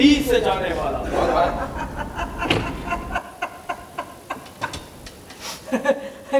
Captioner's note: laughter